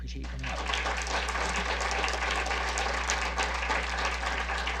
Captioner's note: audience applause